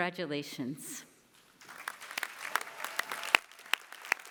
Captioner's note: applause